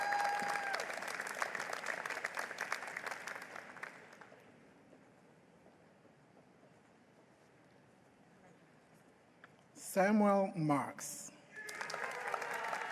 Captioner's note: applause